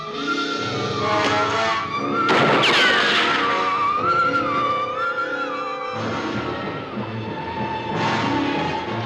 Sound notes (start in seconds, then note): 2.2 bullet ricochets; 2.3 gun fires; 3.5 suspenseful music